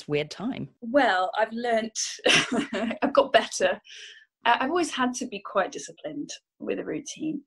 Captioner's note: laughs